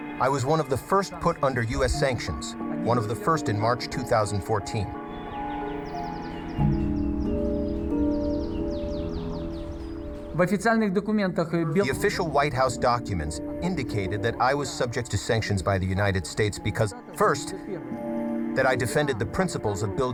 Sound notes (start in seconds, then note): 5.7 birds chirping; 10.6 speaking foreign language